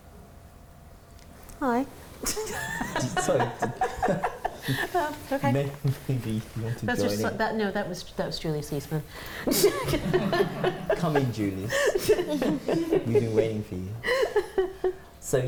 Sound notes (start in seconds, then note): 9.4 laughter